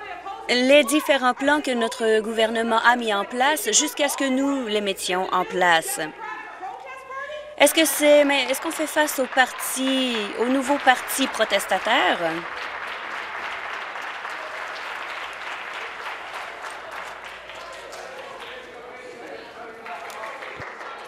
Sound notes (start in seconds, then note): 12.8 applause